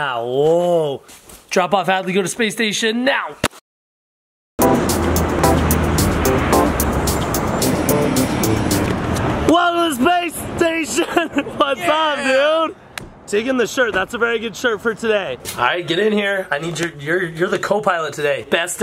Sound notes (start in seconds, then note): 4.6 light funky music; 6.7 traffic passes; 10.9 laughs